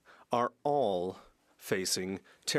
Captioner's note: speaking French